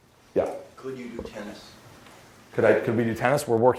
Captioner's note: voiceover